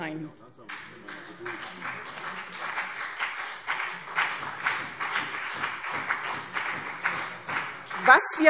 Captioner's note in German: Beifall CDU und BÜNDNIS 90/DIE GRÜNEN